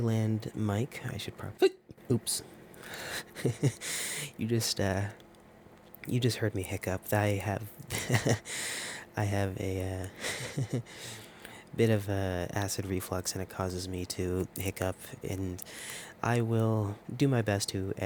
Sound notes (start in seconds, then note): 1.6 hiccup